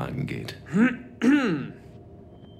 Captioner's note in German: räuspert sich